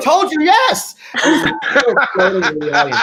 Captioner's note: group laughing